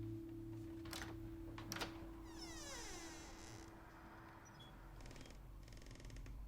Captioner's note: door latch clicks and squeaks